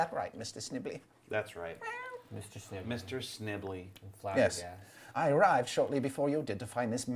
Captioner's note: cat meows